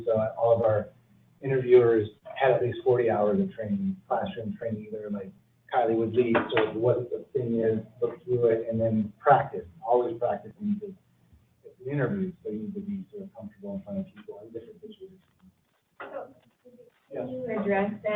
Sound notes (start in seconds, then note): 15.7 coughs